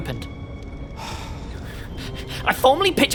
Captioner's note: sighs